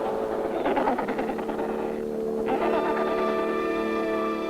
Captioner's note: penguins vocalizing